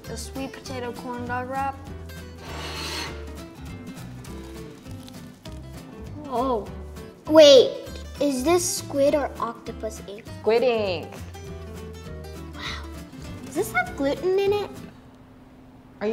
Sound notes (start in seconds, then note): 2.4 plate sliding; 4.2 corn dog crunches